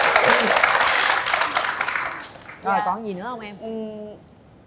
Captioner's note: applause